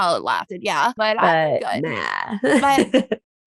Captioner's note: laughs